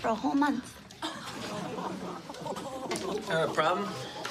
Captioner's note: laughter